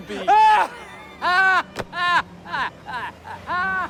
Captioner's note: laughing